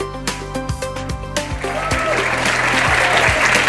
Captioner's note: applause